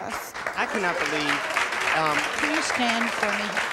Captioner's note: audience applauding